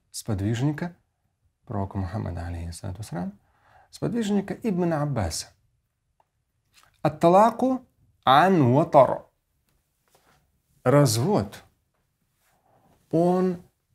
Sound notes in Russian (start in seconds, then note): 5.4 Говорит на арабском